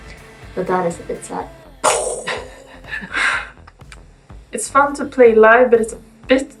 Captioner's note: makes a gong sound